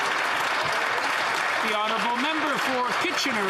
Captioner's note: speaking Italian; some Applause